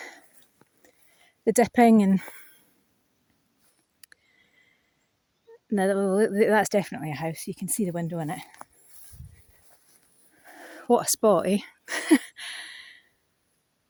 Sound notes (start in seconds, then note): 11.9 laughs